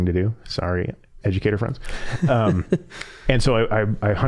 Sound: chuckling

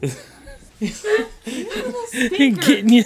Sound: laughing

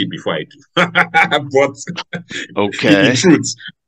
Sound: laughs

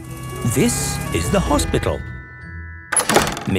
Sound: siren sounding

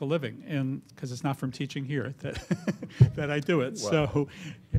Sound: laughs

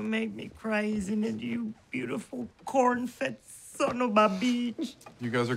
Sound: sobs

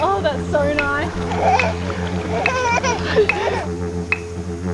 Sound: makes excited noises

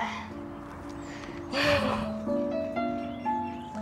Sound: laughs

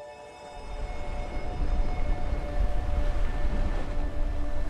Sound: waves rumbling

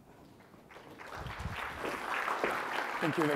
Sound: applause

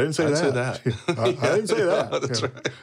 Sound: laughs

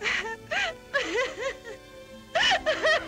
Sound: crying

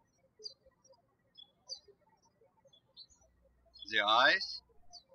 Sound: birds chirping

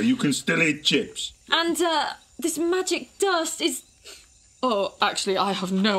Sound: sniffing

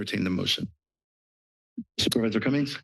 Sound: pause

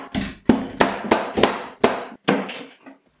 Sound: choppy chop chop

